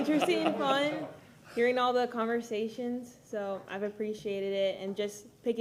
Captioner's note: laughter